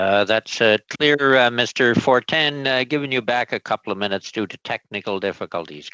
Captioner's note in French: voix de l'interprète